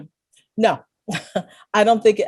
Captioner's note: chuckles